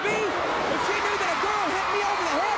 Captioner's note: crowd cheering